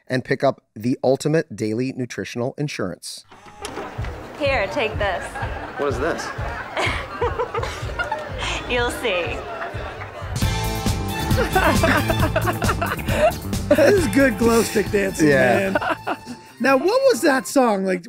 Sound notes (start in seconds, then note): 7.0 women laughing; 10.5 electronic music; 11.2 laughing